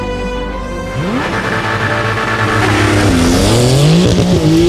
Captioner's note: engine revving